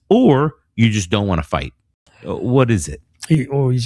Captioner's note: uh